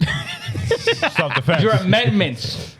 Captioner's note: laughing